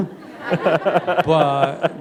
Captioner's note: laughter